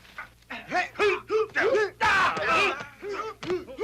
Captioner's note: men grunting